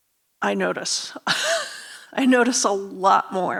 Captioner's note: laughs